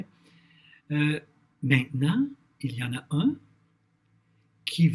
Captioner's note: translating in French